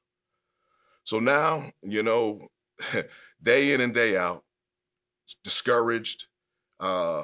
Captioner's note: chuckles